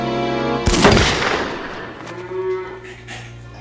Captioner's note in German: Schuss